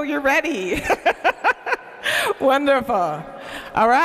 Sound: laughs

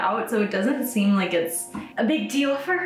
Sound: none

